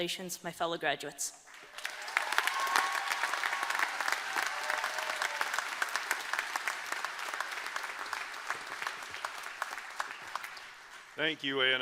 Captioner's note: applause